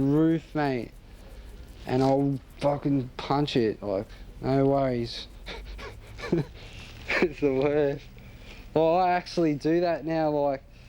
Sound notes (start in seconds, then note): 5.0 laughs